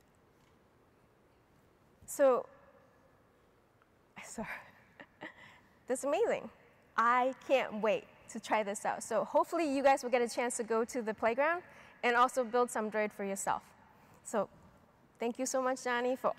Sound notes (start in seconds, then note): 5.0 chuckles